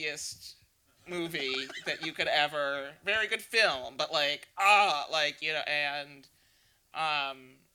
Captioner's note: laughs